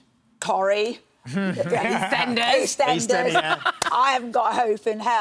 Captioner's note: laughs